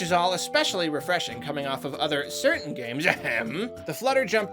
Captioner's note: ahem